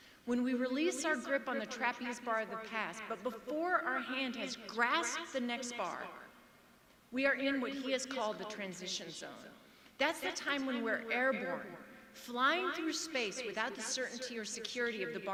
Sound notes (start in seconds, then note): none